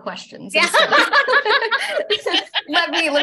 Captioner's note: laughter